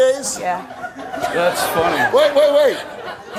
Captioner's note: laughs